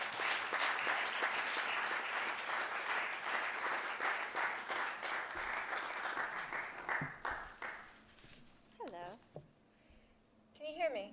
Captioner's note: applause